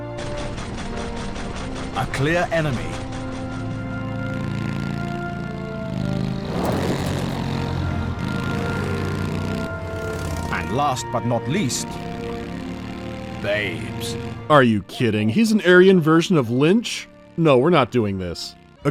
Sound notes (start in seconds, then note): 0.1 heavy gunfire; 3.9 grumbling of motorcycle engine